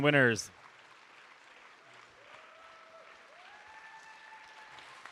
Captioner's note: audience cheering